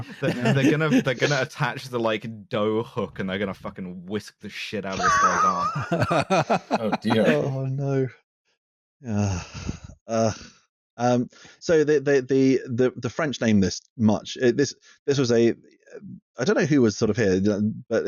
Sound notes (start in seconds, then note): 0.0 laughter; 4.8 laughter; 9.8 eeeuughh